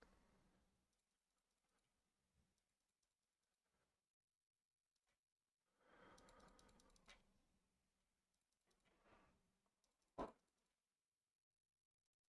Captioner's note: silence